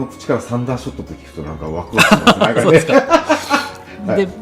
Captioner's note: laughs